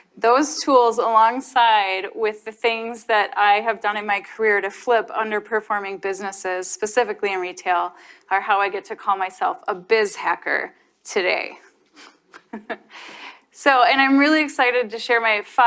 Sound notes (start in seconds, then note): 11.9 chuckles